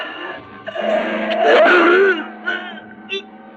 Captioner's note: Croydon groans